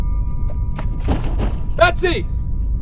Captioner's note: unsettling music; banging on door